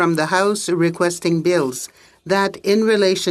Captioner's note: speaking French